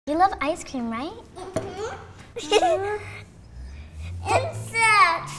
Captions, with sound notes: - You love ice cream, right? - Mm-hmm. - Huh? (giggling) - Insect.